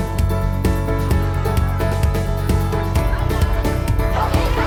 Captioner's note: children chatting